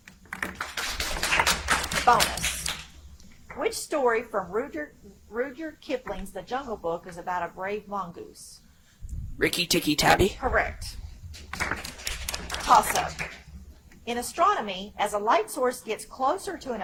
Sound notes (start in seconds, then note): 0.2 audience applauds; 11.4 audience applauds